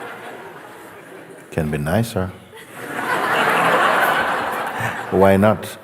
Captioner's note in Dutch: gelach